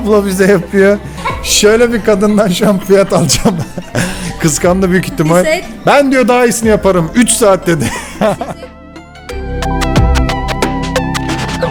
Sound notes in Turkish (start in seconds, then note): 1.2 kahkaha; 7.8 kahkaha